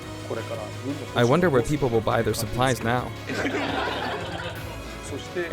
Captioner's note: laughter